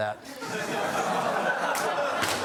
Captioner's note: laughs